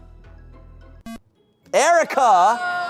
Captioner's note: electronic beep; audience exclaiming